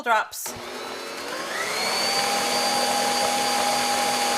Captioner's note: beater whirs